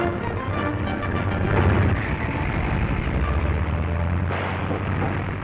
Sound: gun firing; engines revving; gun firing

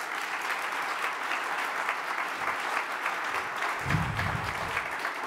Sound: audience applause

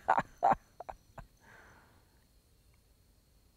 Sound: laughter

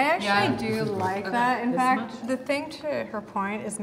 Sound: none

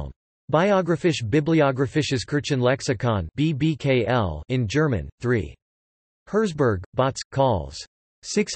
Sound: in German

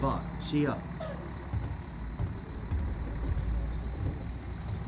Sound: feet walking away, bus engine

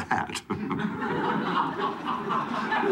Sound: chuckling

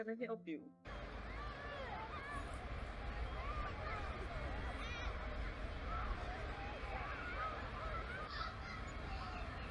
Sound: playground chatter

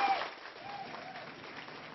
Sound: applause

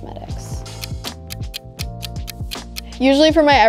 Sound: clock ticking

